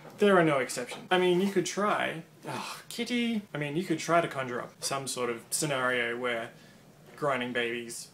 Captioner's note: sigh